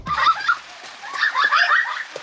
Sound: kids laughing loudly; rain pouring loudly

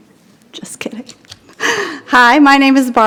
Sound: chuckles

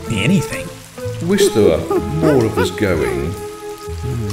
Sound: ape noises

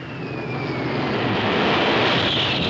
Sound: dive bomber approaches; explosion

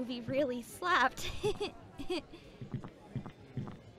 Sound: laughs nervously

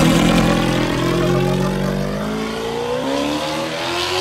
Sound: engine revving

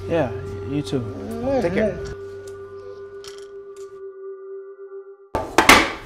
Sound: dog whimpers

